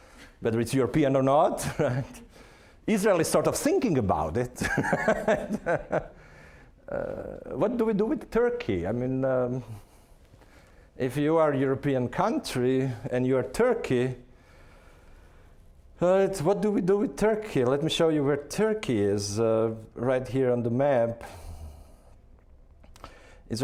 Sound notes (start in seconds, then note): 4.6 laughing